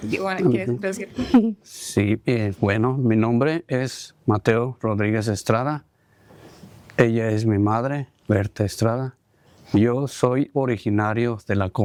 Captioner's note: speaking spanish